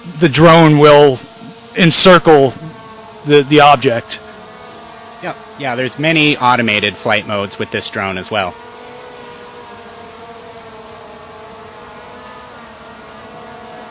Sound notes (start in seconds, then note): 9.0 drone motor whirring